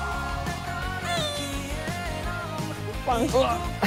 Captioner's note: sigh